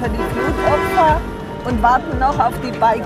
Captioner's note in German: Hupen